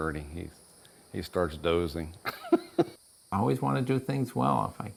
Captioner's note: laughs